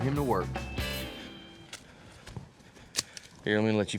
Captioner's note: footsteps